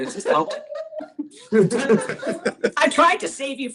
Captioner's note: laughter